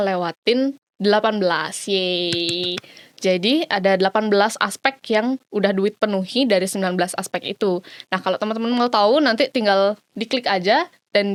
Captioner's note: clap